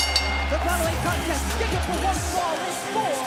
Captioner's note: bell ringing